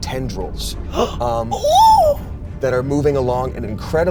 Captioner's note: exclaims